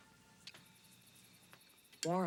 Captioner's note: crickets chirping